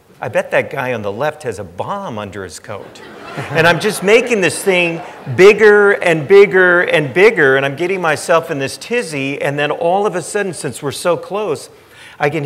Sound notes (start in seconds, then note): 2.8 audience laughing